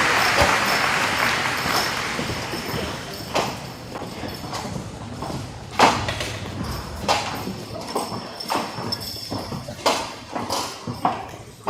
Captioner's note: applause